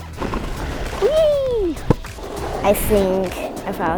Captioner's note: shouts